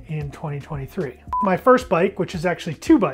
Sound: timer beeping

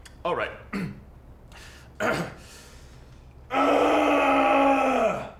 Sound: clears throat for a really long time

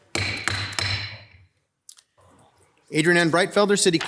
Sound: gavel banging

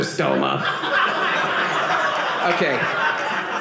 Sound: audience laughing

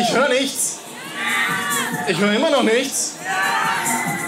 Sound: scream; squeal; shouts

